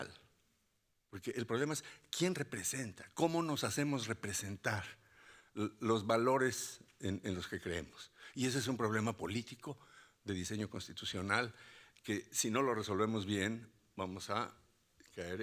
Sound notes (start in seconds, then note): 3.2 speaking Spanish continues